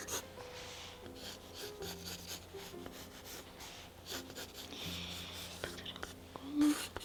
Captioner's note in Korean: 슥슥슥 스윽 스윽 연필 소리